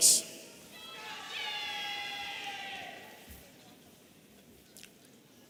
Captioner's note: audience cheering